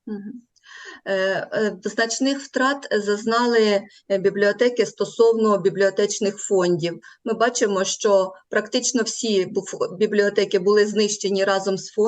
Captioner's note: foreign Language